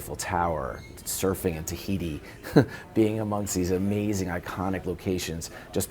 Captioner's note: laugh